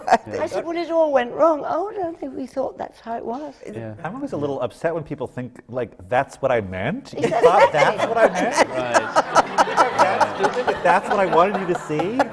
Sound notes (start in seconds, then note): 7.2 laughter